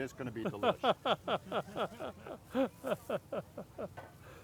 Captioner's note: laughing